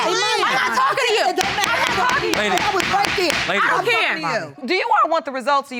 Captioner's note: judge lake banging the gavel